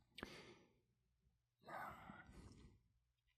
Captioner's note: sighs